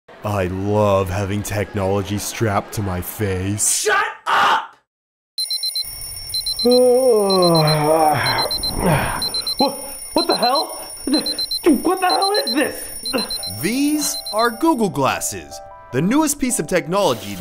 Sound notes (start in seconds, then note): 5.4 alarm clocks sounding; 6.6 yawning; 11.0 stammers